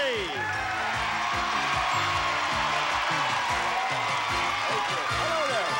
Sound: audience applauding

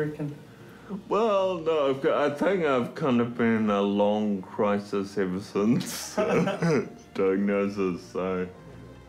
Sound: laughs

